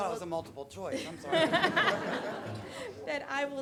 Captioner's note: audience laughing